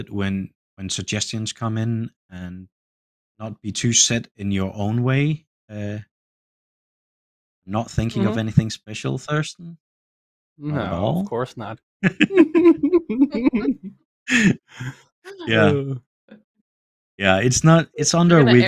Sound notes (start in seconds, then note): 12.0 laughter